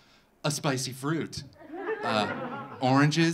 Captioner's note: audience laughing